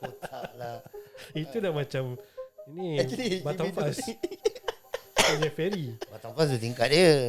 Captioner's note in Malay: ketawa; ketawa